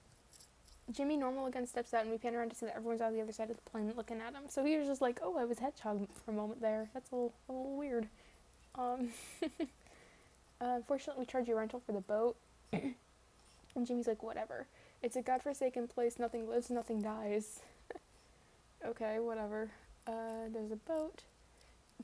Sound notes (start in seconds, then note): 9.1 laughs; 12.7 ahem